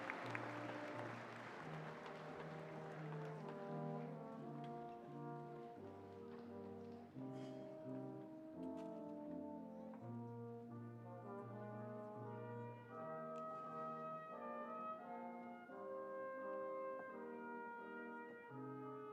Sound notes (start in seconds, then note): 3.4 applause